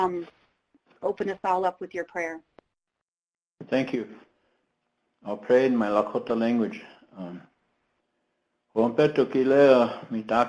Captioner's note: speaking lakota prayer